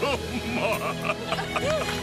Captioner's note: dad collapses into tears